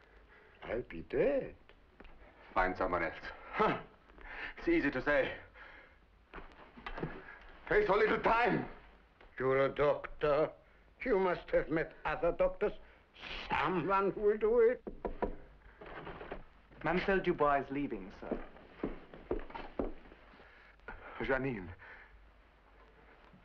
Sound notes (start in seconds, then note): 14.8 knocking on door